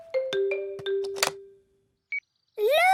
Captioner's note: clicks; meter beeping